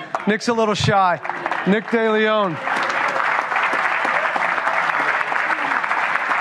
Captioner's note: applause